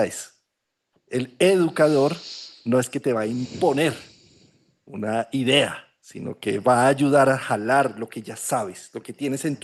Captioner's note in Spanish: resoplido